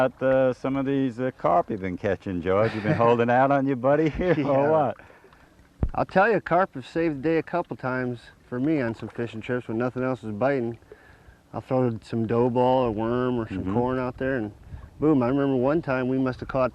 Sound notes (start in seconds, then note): 4.0 laughter